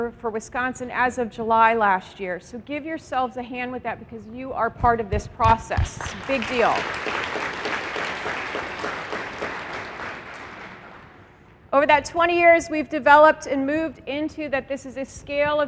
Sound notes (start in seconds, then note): 7.2 applause